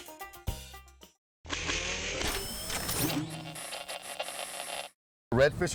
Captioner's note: mechanical and static noise